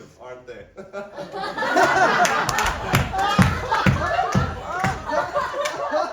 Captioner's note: the audience laughs at awesome joke